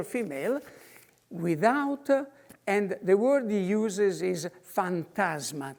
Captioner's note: in foreign language